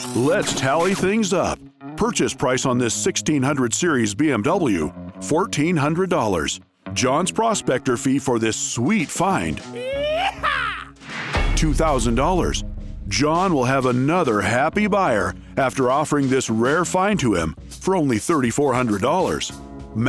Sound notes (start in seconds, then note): 9.5 cowboy yell